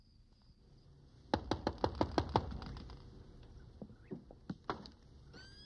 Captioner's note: soft knocking on door